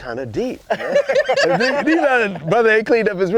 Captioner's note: laughter